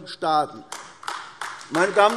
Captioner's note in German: Beifall AfD